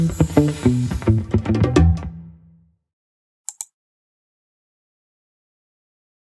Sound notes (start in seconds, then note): 0.0 upbeat music; 3.5 mouse clicking